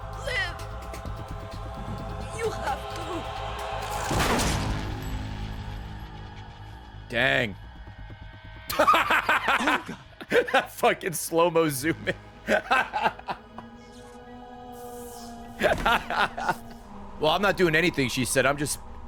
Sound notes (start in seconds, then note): 8.5 laughs